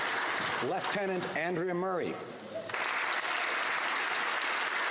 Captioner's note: applause